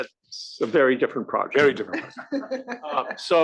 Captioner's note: laugh